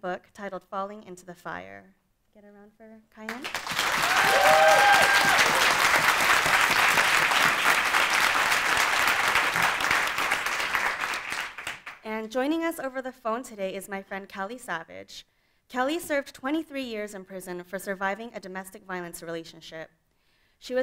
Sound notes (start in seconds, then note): 3.3 audience applauding; 3.6 audience cheering